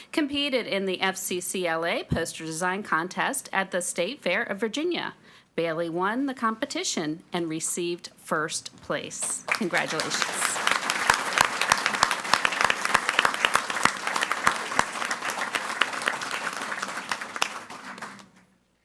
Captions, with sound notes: competed in the FCCLA poster design contest at the State Fair of Virginia. Bailey won the competition and received first place. Congratulations. (audience applauding)